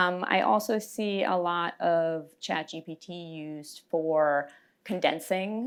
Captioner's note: none